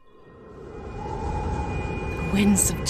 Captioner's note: wind rushing